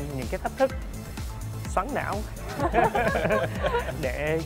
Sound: laugh

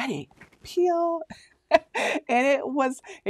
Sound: laughing

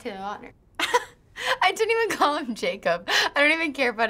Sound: laughs

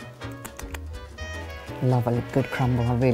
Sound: lips smack

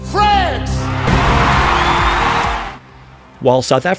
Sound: crowd cheering

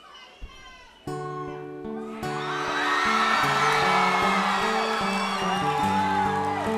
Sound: gentle acoustic music; audience applauding

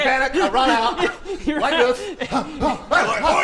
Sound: hrgh hgh

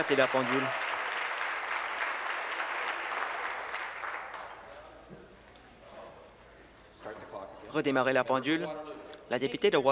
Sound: applause

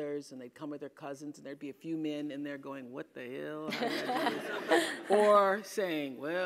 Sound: laugh

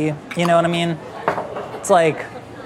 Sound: jar clunks

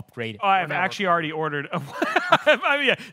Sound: laughs

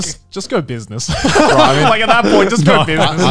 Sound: everyone laughs

